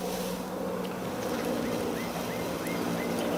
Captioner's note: bird sounds